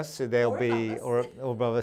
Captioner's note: laughs